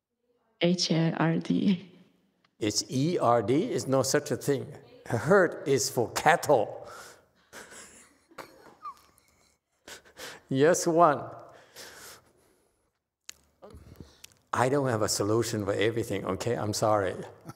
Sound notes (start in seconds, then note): 7.5 laughs; 11.3 laughs; 17.4 laughs